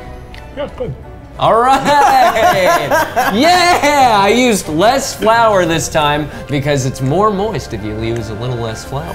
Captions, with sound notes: Yeah, it's good. - All right! (laughs) - Yeah! I used less flour this time because it's more moist if you use a little less flour.